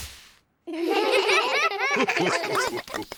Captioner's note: all giggle